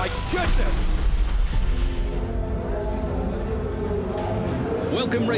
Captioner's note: engines roaring on racetrack